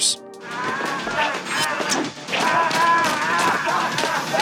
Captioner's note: grunting, sounds of combat